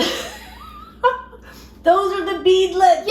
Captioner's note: laughs